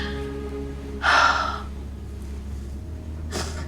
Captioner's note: sighs; dramatic ambient music